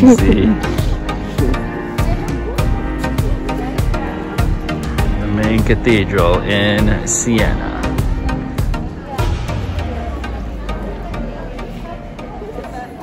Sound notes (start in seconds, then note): 0.0 chuckles; 8.6 crowd noise